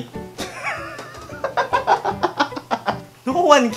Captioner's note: laugh